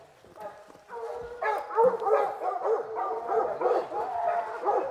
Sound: dogs barking

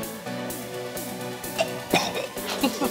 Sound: coughs, gags

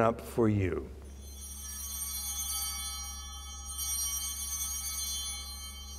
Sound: bell ringing

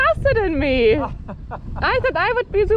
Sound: motorcyclist chuckling

